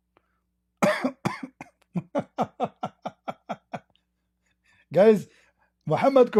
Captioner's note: Ketawa